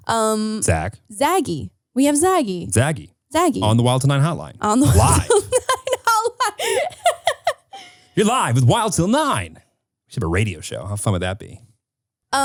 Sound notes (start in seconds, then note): 4.7 laughing